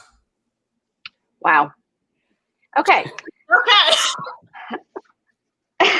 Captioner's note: laughs